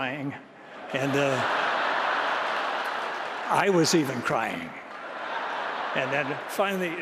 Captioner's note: laughter